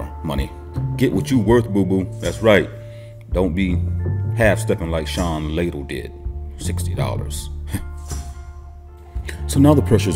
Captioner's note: sighs